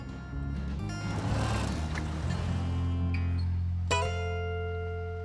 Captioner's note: motor revs